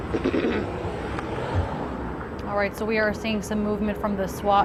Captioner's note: coughing